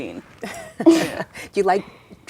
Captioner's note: laughs